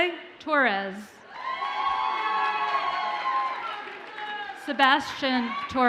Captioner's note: audience cheers and applauds